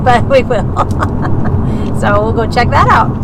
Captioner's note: laughs